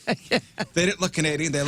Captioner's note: laughing